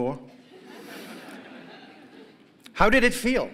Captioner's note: laughter